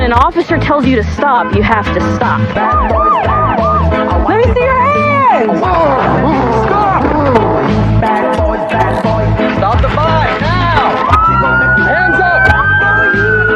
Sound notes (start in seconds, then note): 5.6 gruntntining; 7.6 singigingng; 11.0 pololice siice sireren; 12.7 singigingng